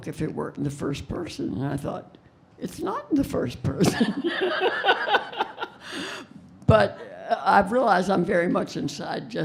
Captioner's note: laughing